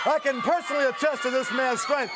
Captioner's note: crowd chatter